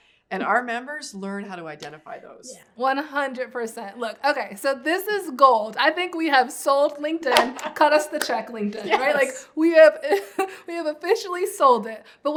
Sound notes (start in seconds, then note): 7.3 laughing and clapping; 8.8 laughs